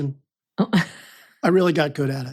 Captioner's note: laughs